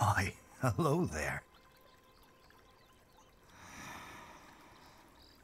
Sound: birds chirping

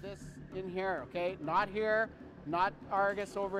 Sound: voiceover

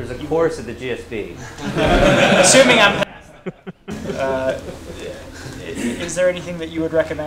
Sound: laugh

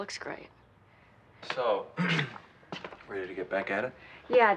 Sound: clears throat

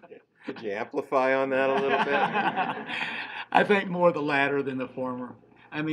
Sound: laughing

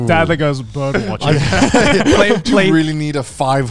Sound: everyone laughs

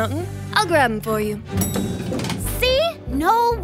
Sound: elevator dings

